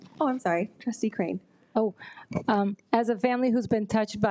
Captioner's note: none